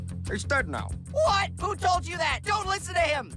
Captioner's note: British accent